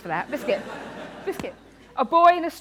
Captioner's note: laughter